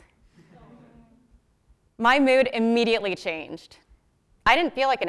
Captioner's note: laugh